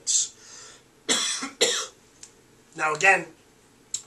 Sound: coughs

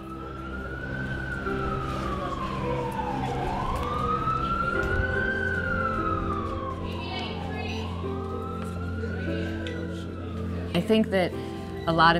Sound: sirens

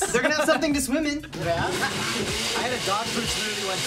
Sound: blender whirring

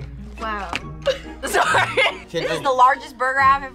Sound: both chuckling

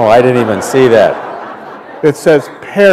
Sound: laughter

